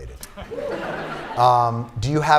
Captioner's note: laughter